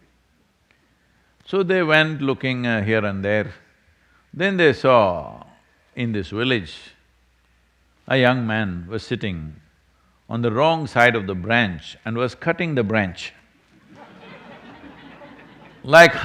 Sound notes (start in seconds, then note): 13.6 laughter